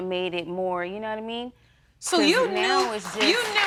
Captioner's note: audience applauding